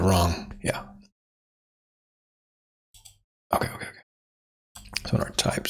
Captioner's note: blank Audio